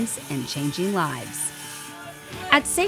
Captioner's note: saw whirring